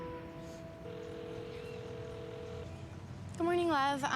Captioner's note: line ringing